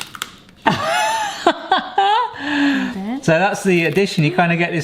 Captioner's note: laughing